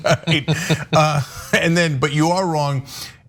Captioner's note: laugh